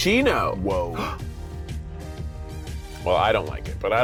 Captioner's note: gasping